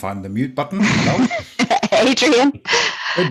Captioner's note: laughing